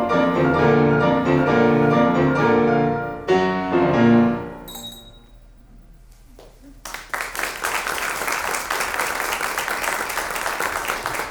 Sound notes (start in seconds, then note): 0.0 bright piano music; 4.6 glasses clinking; 6.8 audience applauds